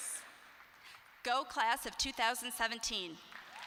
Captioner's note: applause